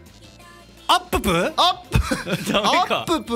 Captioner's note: giggle